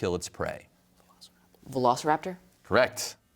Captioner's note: whispers